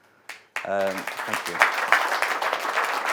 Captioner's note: audience applauding